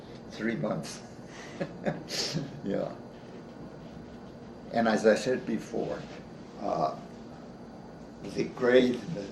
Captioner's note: chuckles